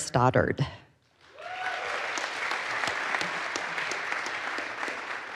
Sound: audience applauds

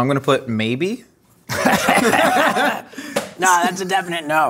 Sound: laughing

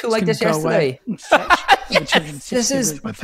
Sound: laughing

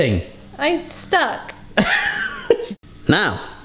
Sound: laughing

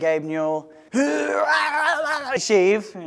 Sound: murloc sounds

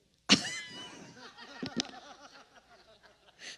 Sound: laughs

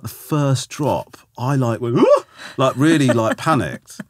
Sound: laughing; Romesh gasping

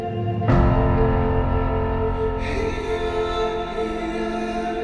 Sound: none

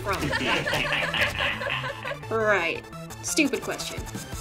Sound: laughter

